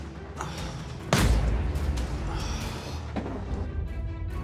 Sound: dramatic music; banging

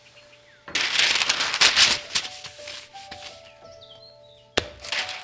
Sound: parchment paper crinkles

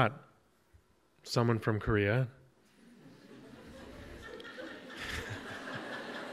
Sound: audience laughs

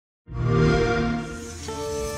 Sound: xbox whoosh

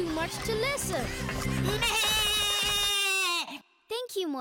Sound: loud bleating

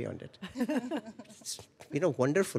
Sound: laughter

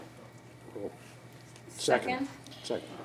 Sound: rustling

